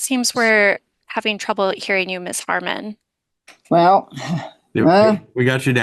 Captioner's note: laughs